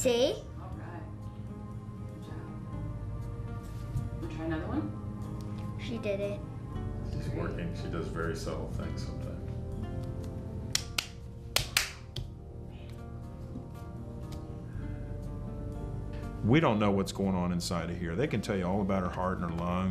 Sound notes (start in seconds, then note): 11.5 claps twice; 14.4 claps twice